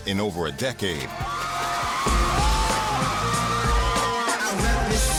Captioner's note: crowd clamoring